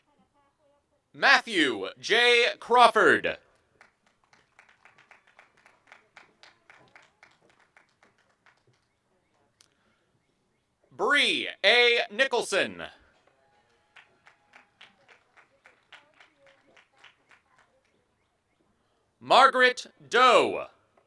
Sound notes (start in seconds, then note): 0.0 applause and cheering; 8.1 applause and cheering